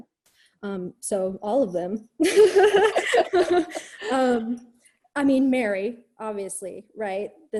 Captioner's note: laughter